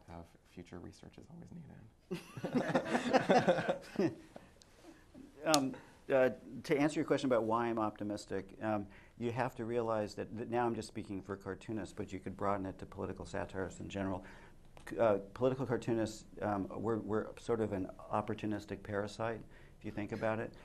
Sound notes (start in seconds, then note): 3.9 laughter